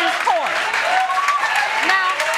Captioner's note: audience cheering